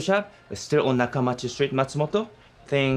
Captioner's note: speaking in foreign language